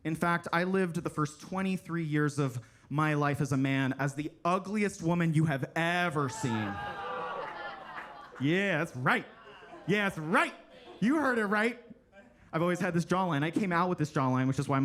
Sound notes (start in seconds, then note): 6.4 attendees laugh and clap